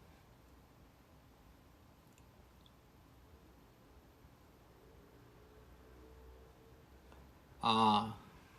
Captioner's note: traffic noises say hi